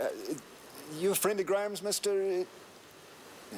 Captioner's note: none